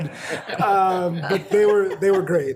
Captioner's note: all laughing